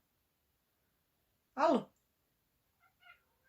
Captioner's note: meow